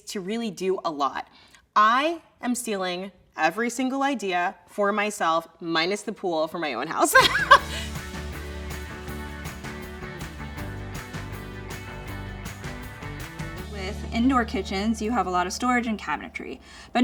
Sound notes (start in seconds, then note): 7.0 laughs; 7.6 soft music